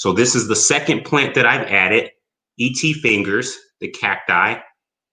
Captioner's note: none